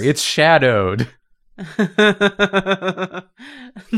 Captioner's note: laughs